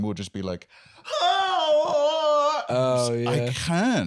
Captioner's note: screaming